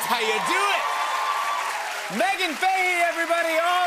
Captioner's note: cheers and applause